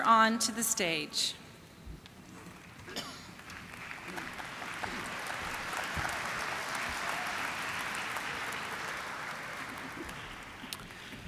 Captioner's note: applause